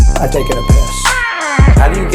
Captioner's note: death scream